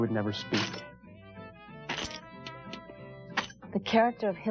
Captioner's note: foot steps